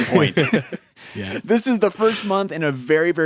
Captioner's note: both chuckle